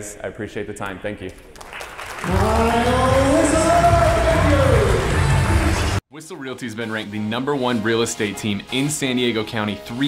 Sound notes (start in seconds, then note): 1.5 audience applauds; 5.0 applause